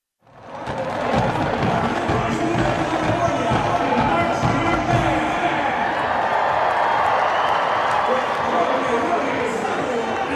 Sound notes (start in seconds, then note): 0.5 crowd cheering